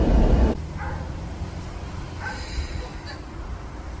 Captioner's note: dog barking